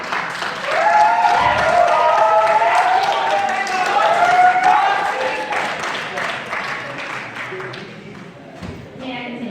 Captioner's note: crowd cheering